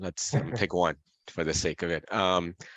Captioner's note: laughs